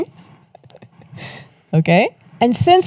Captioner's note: laughs; chuckles